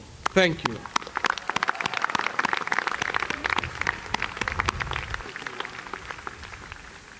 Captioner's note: applause